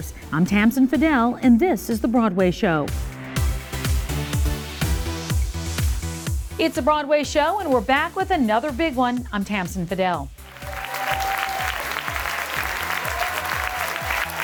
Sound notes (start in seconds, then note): 10.4 applause